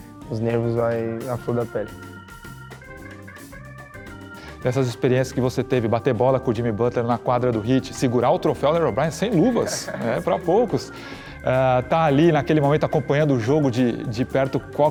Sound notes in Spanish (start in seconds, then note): 9.3 Neymar se ríe